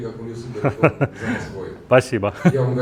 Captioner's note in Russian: смех